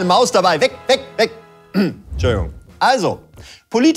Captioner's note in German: Räuspern